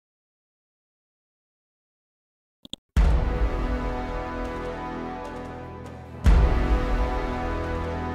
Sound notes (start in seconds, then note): 2.6 clicks mouse; 3.1 dramatic chord